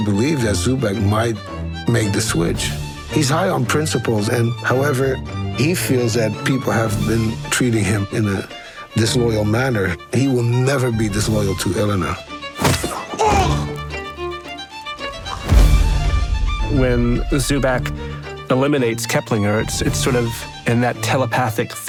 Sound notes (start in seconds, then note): 12.6 pained grunt